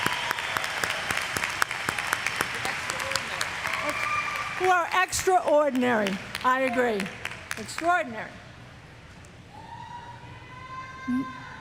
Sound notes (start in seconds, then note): 6.0 applause; 6.4 cheers